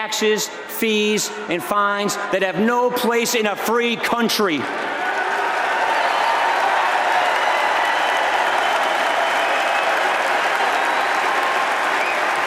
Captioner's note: applause